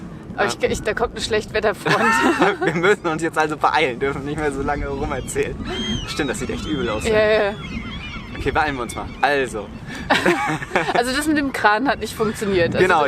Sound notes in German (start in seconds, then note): 9.8 beide lachen